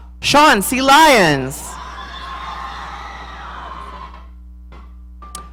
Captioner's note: audience cheering